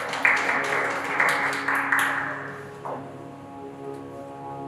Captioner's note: applause from the audience